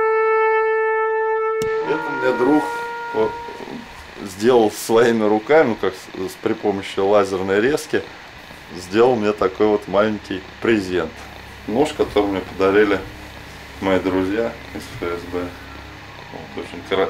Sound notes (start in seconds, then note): 8.3 wind